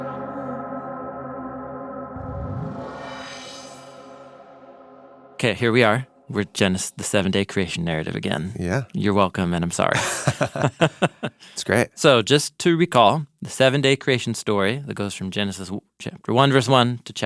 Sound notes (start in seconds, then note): 9.9 person laughing